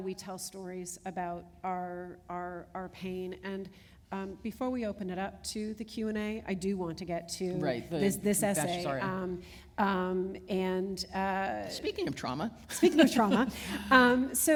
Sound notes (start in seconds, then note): 13.4 chuckle